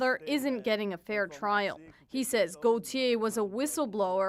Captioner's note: speaking French